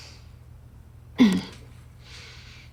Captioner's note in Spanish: carraspeo